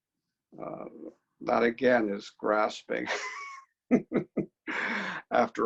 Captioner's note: laughs